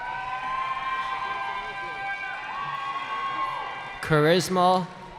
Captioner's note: cheering